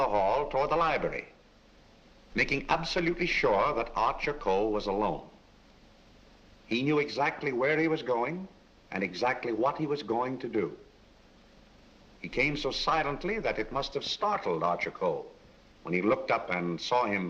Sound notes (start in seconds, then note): none